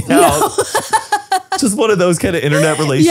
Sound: laughs

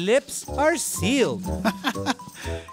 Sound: chuckling

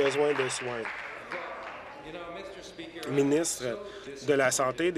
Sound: applause

